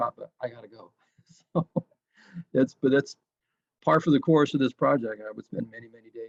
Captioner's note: laughs